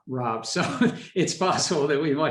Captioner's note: laughs